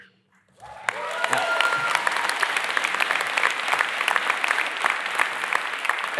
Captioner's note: applaudissement - applause